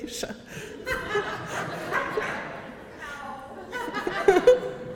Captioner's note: audience laughter